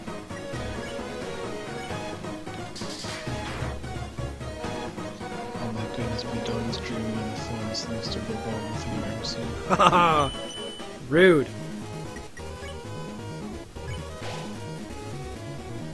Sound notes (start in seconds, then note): 7.0 mumbling, reading chat; 9.4 laughing